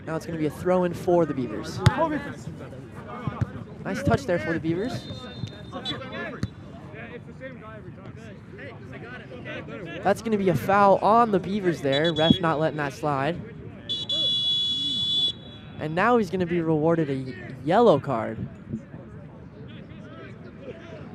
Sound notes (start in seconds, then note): 13.8 whistle blows